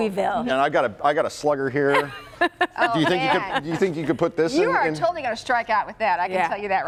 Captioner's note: laughter